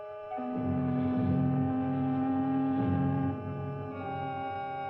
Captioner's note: ship's horn blares